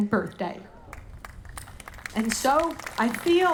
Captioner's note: audience applauding